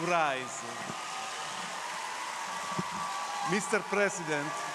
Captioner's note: crowd cheering